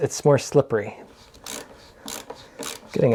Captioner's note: ratcheting